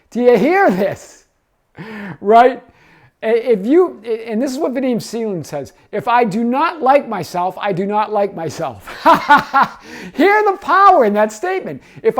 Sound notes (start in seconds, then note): 8.8 man laughing